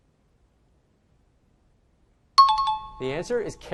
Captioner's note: out of time alarm